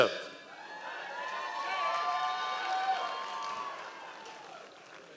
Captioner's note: members of the audience cheering